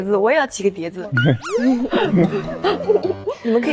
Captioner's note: laughing